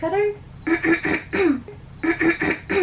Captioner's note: clears throat